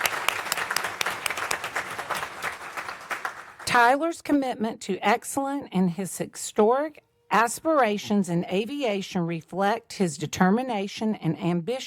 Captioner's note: applause